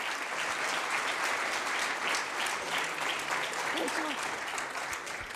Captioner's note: applause